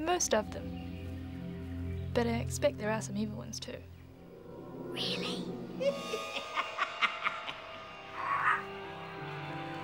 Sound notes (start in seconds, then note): 8.1 cackling